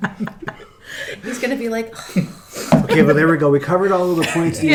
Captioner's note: sighs